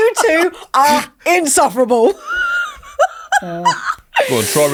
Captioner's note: everyone laughing